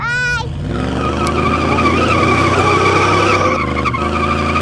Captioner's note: engine rumbles; tires squeal